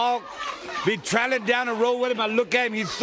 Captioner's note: crowd cheering